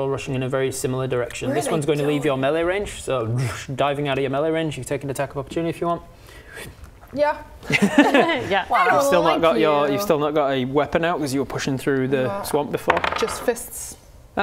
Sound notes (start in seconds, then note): 7.7 laughs